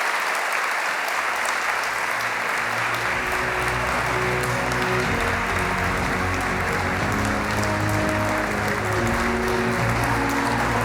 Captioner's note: applause